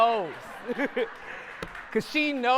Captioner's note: audience laughter